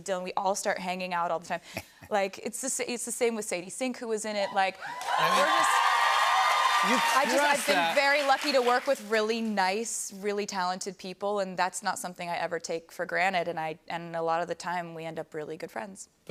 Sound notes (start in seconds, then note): 4.5 cheers and applause